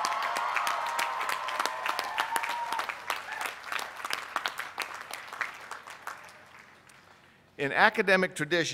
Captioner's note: cheers and applause